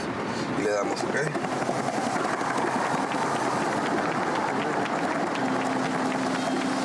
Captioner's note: speaking in Spanish